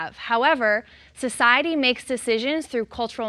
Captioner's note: none